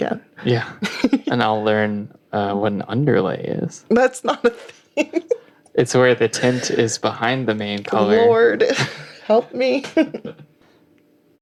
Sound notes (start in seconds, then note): 8.6 laughing